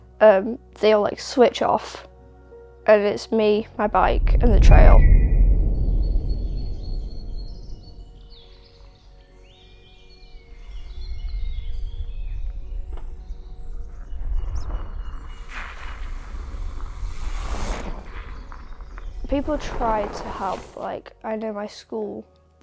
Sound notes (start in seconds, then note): 4.6 bird of prey screeches with birdsong; 9.8 bike tires on dirt getting closer, wheel hub clicking, whoosh past!